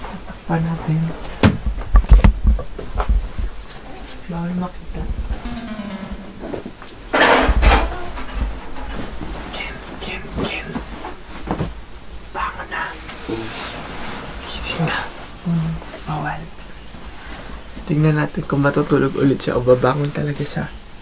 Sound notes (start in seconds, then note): 9.7 whispers